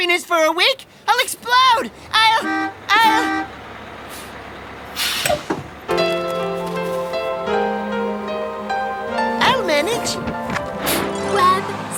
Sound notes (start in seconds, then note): 2.1 bus horn honking